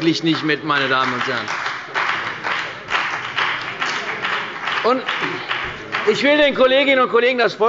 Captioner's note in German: Beifall bei der CDU und dem BÜNDNIS 90/DIE GRÜNEN